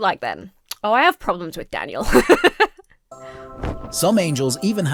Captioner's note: laughs